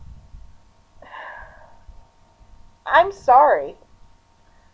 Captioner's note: long sigh